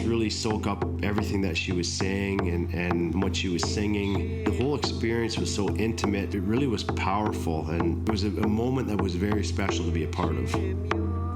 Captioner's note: chanting